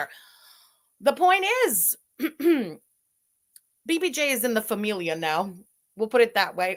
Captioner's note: clears throat